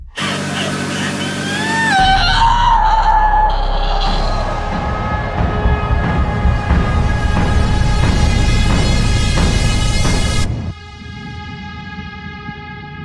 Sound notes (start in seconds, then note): 0.1 dramatic music; 0.2 Ally screaming; 4.9 intense dramatic music